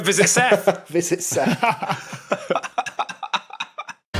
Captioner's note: guessers laughing; laughs